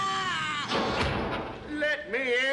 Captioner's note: screams